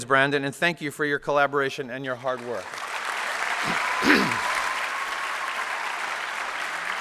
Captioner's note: applause